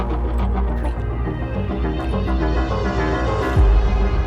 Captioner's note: sound of kissing